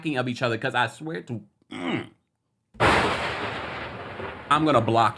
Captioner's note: grunts; thunder rumbling